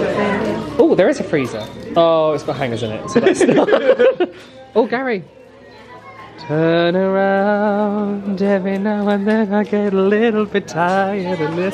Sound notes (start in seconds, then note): 3.2 laughs